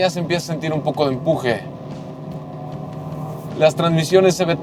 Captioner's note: engine revving